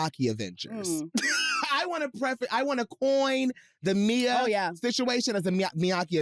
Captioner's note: laughs